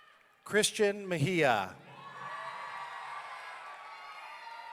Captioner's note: audience cheering